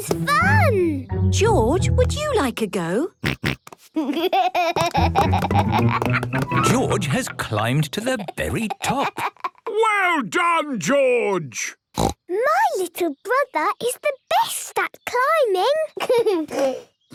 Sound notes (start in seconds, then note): 3.7 snorts, giggles; 11.9 snorts